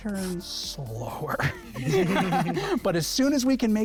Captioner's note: laughter